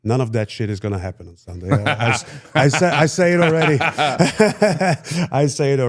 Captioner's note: laughs